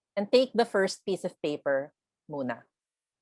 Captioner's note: speaks in foreign language